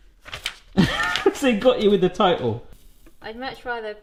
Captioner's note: laughs